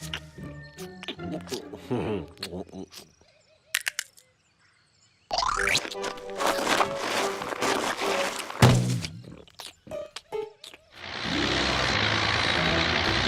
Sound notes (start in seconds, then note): 1.1 laughs; 3.7 knuckles crack; 11.0 tractor engine running